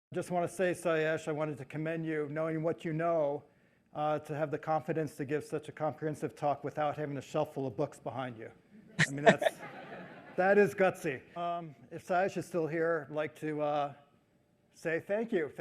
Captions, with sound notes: - Just wanna say, Sayash, I wanted to commend you, knowing what you know, to have the confidence to give such a comprehensive talk without having a shelf full of books behind you. I mean, that is gutsy. (audience chuckles) If Sayash is still here, like to say thank you.